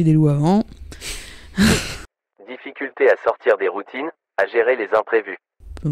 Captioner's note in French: Voix off; rire